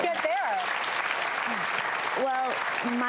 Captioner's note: clapping